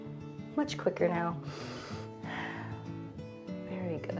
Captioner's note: inhales and exhales